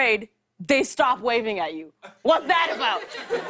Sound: laughter

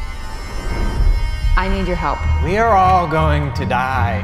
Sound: screaming

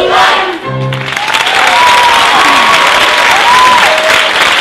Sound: audience applause

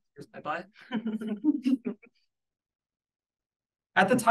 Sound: audience laughing

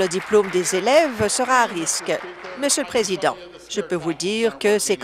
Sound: applause

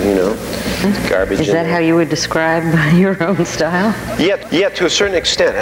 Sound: laughing

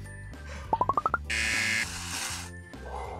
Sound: buzzer

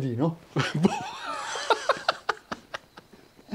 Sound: laughter

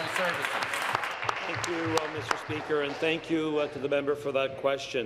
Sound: applause

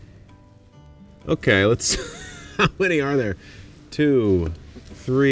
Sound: laughs

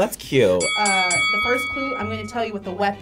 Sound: bell dings

